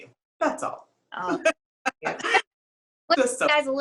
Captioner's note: laughs